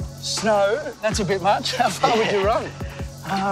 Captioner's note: laughs